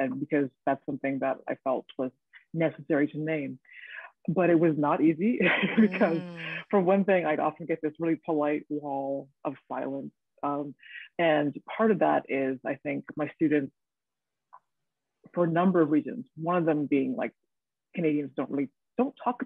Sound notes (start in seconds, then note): 5.5 woman laughing